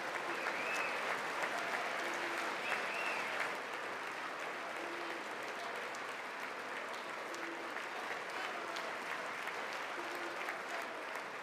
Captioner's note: applause